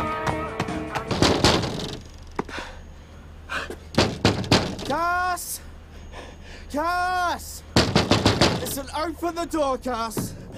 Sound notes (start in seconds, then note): 1.2 knocks on door; 7.7 continues to pound on door